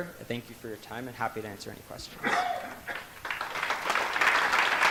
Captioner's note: audience applauds